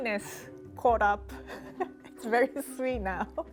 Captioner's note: laughing